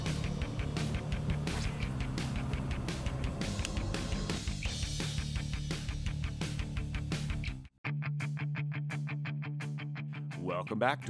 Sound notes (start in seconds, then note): 2.3 rod whipping